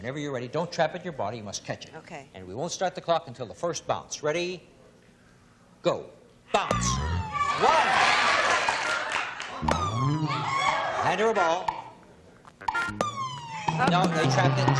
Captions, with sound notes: And whenever you're ready, don't trap with your body. You must catch it. And we won't start the clock until the first bounce. Ready, go. Bounce. 1. [cheering] Hand her a ball. No. They trapped it.